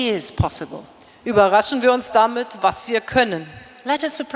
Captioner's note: speaking in German